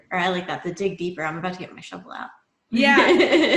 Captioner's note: laughs